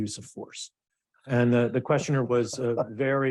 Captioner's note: chuckling